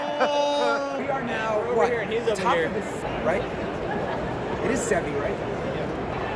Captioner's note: general vlogging noises